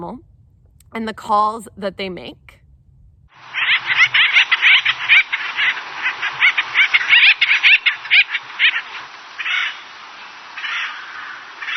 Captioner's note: animal noises